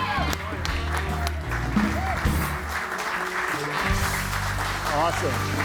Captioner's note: audience cheering and applauding